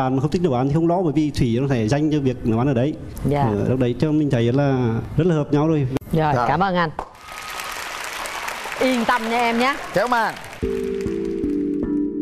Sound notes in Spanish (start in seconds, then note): 7.1 aplauso